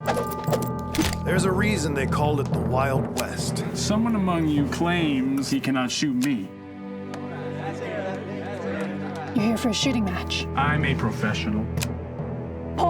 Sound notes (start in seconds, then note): 7.2 crowd chattering